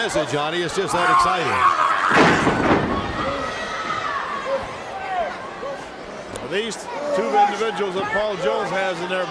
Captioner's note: crowd chatter